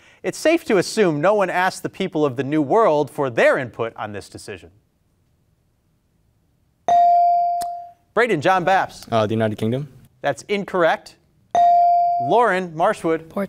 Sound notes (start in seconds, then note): 6.9 beep; 11.5 beep